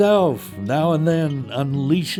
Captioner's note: voiceover